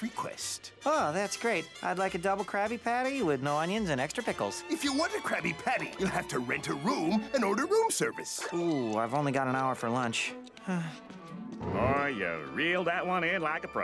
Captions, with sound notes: Ah, that's great. I'd like a Double Krabby Patty with no onions and extra pickles. If you want a Krabby Patty, you'll have to rent a room and order room service. Ooh, I've only got an hour for lunch. [sighing] Oh, ya reeled that one in like a pro.